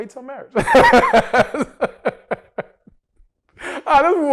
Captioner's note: laughs